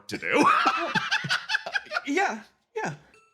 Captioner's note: laugh